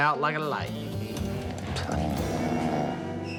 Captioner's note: snoring